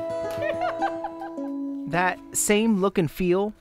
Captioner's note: laughter